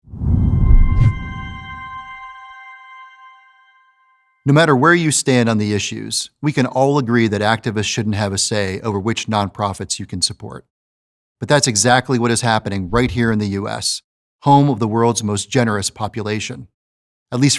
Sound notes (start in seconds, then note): 0.0 air whooshing